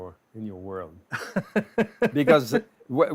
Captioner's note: laughter